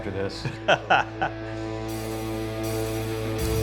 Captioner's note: laughs; metal music